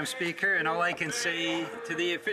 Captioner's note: some Applause